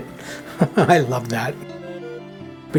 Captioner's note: laughing